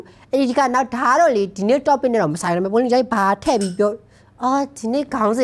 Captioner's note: clink clink